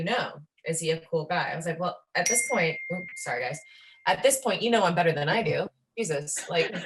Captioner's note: phone dings